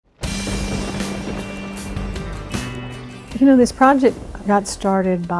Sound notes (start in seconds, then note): 0.1 thunder strike; 0.2 upbeat music